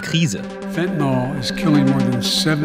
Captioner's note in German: englisch